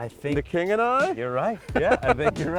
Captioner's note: laughs